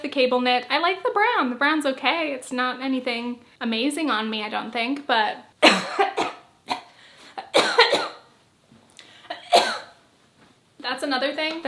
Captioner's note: coughing spell